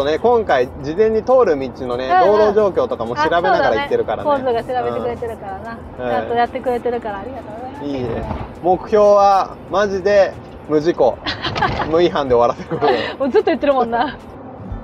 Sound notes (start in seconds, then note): 12.4 laughs